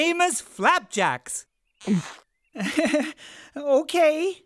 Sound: gulping

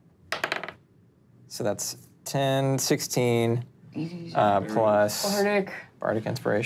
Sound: dice clattering

